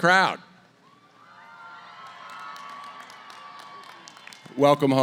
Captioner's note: cheering